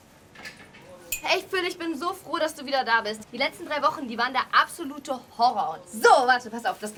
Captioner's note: Kat speaking in foreign language